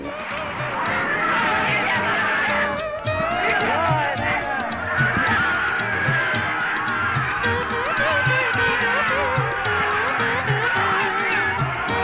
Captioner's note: the sound of human cheering